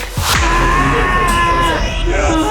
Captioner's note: screams